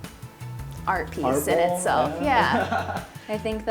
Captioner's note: laughs